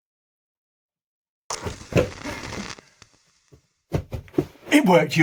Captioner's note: loud puff